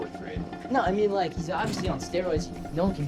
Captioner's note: French